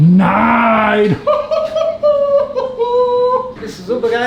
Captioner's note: high pitched laughter